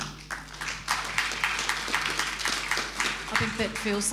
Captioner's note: audience applauding